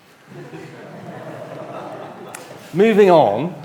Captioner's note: audience laughs